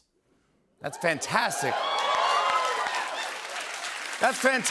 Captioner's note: cheers and applause